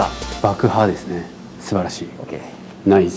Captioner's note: explosion